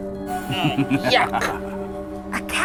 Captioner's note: laughs evilly